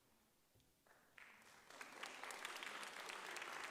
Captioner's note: audience applauds